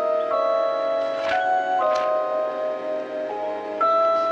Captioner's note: pages turning